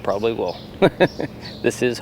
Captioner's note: laughs